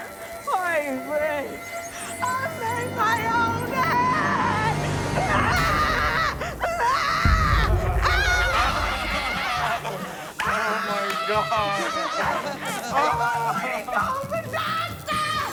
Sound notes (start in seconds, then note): 5.1 screams; 11.7 screams